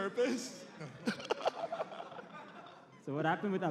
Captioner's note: laughs